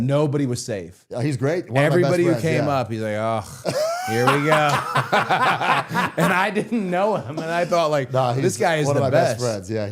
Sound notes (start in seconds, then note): 3.5 Matt laughing; 5.3 both laughing